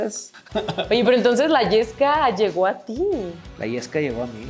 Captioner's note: laugh